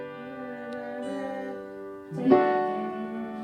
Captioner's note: humming; guitar strums